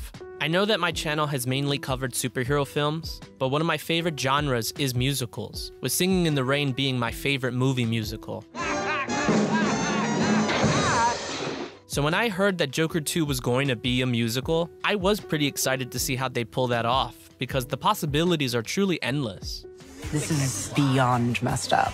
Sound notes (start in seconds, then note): 8.4 crazy laughter; 9.3 crash